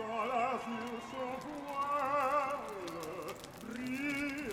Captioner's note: revelry and fire crackling